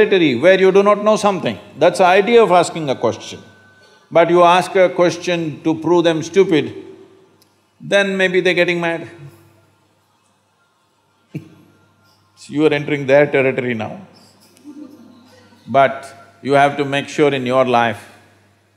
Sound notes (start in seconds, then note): 11.0 laughs; 14.4 few laugh